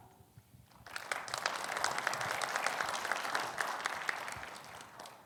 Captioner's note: audience applauding